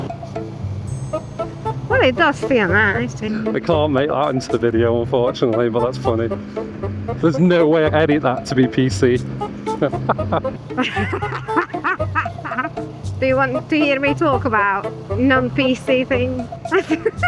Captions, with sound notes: Well, it does feel nice. I can't make that into the video, unfortunately, but that's funny. There's no way I'd edit that to be PC. (laughing) Do you want to hear me talk about non-PC thing?